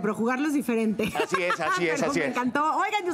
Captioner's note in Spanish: Ríe